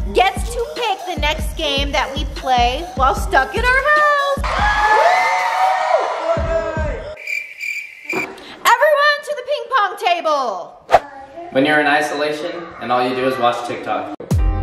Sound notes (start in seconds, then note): 4.4 all cheering; 7.1 crickets chirping